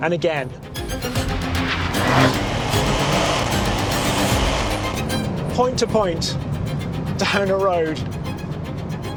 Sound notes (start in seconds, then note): 2.4 engine revving